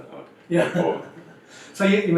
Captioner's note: laughs